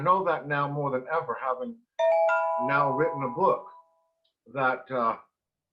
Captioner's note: ringing